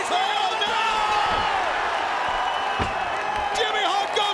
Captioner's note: commentators yelling